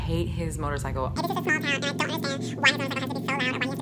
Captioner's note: murmurs